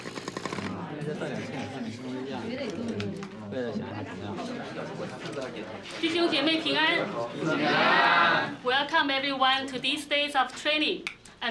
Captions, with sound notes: (speaking foreign language) - [Crowd] Yeah. - Welcome, everyone, to this place of training.